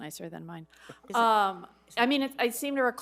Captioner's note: laughs